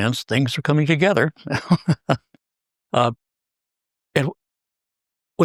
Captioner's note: laugh